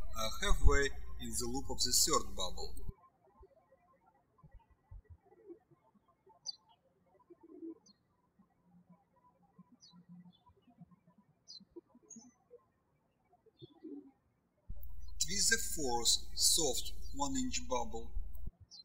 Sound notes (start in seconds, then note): 3.5 birds chirping